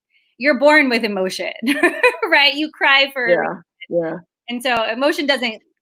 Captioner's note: laughs